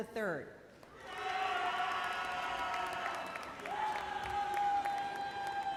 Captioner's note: boisterous cheers and applause